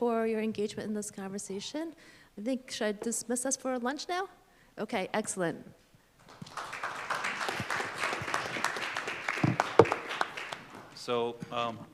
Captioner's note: applause